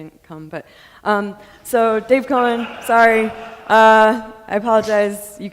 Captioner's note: audience laughing